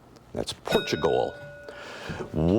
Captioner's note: bell ringing